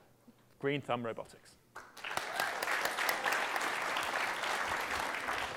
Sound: applause

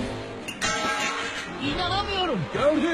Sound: falling sounds

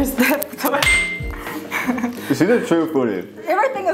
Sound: laughs

